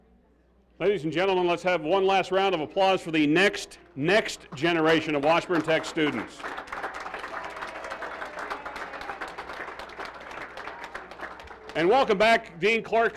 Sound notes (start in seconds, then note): 8.8 applause